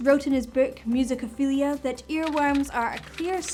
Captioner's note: keyboard typing